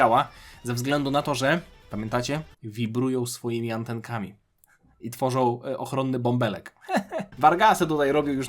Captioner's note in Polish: śmiech